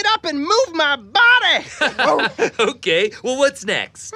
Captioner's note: laughs